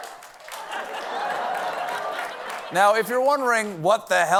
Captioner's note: laughter